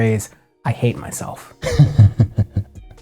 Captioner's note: snickers